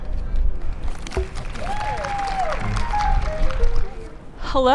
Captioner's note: applause & cheers